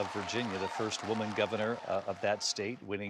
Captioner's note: applause